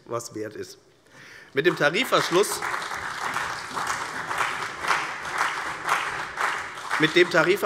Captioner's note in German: Beifall CDU und vereinzelt BÜNDNIS 90/DIE GRÜNEN